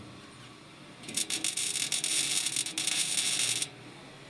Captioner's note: sparks